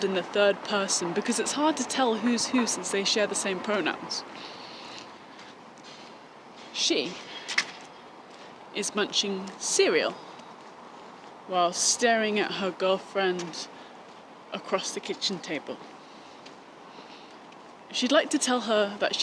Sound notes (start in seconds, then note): none